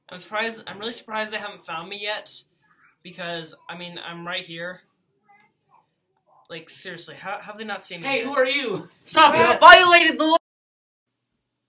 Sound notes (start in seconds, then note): 9.1 david exclaims